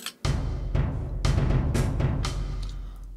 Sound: Cannibal gasps

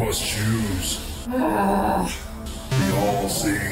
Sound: Azalla groans

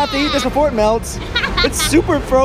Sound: laughs

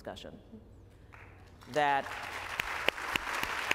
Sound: applause

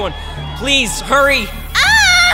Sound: coughs

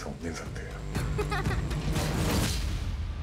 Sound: child chuckles

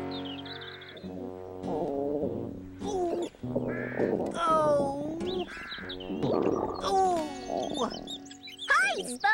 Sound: Spud groaning

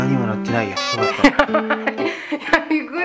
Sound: laugh

